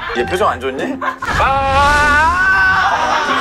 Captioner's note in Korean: 아아아악